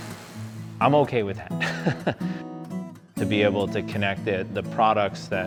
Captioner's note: chuckles